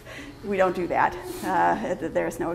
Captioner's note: laughs